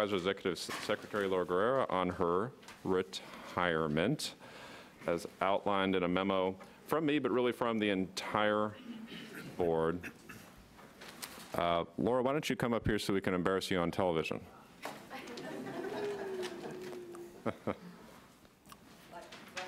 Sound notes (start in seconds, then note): 15.3 audience laughs